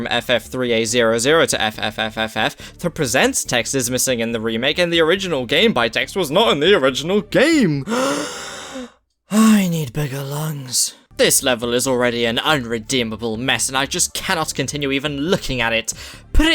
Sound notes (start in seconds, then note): 7.8 long inhale